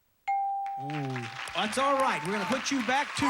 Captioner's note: audience applauding